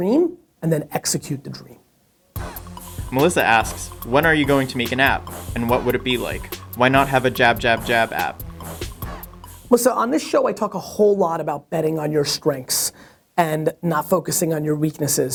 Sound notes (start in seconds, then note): 3.1 voiceover